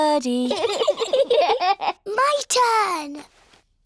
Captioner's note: both giggle